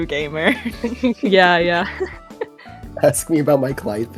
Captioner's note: laughter